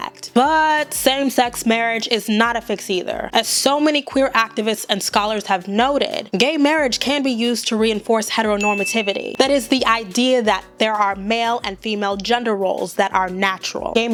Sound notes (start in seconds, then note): 8.6 bell rings